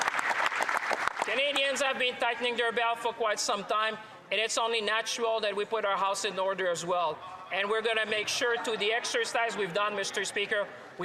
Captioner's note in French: applaudissements